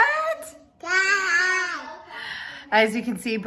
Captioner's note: exclaims